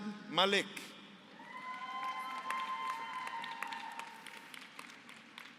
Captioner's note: applause